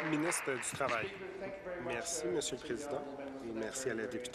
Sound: applause

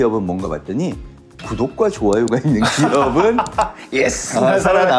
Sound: laughter

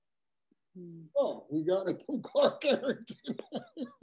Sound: laugh

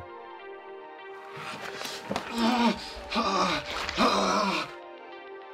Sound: hbomberguy sensually grunts

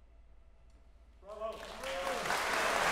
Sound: audience applauding

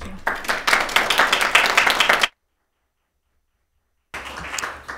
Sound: attendees applauding

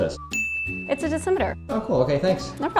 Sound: ding

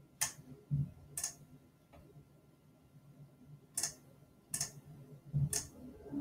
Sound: mouse clicking

